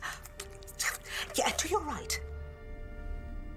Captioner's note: clicks tongue